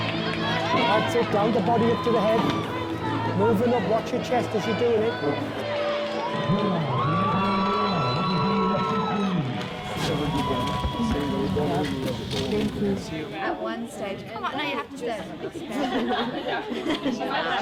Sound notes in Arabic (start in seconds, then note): 7.1 مذيع مكتوم; 9.5 غارقة في ثرثرة جماعية